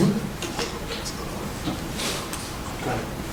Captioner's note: whispering